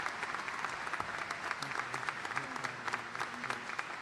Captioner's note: applause